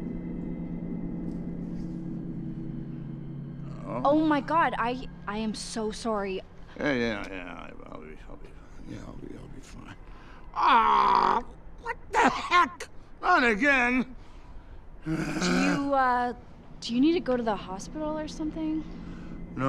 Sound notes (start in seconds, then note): 0.1 gentle ominous music; 3.7 Santa groans; 15.0 moaning; 15.0 Santa groans